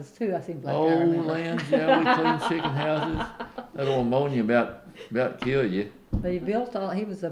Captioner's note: laughter